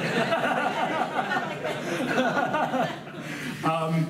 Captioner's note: laughs